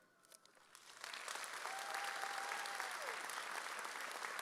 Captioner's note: audience cheers